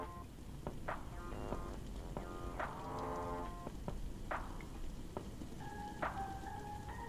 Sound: sounds of food sizzling in the pan

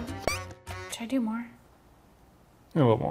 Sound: toy squeaking

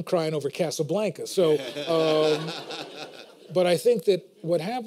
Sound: laughter

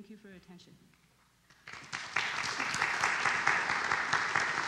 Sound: crowd clapping

